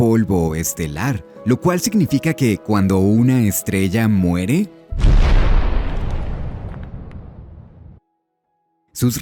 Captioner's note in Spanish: boom